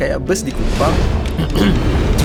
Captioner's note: sarcastic coughing